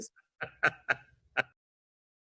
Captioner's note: laughter